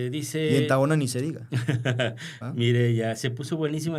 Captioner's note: laughter